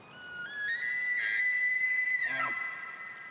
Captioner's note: elk bugles